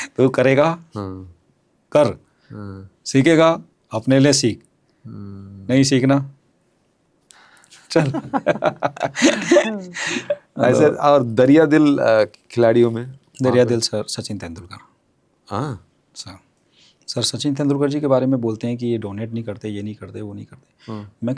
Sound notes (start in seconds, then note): 7.8 laughs